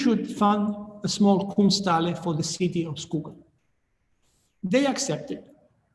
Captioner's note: speaking in foreign language